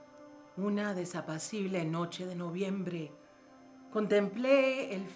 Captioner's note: speaking in foreign language